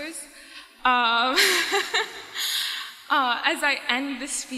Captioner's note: laughs